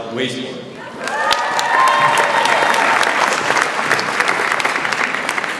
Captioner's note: audience applauds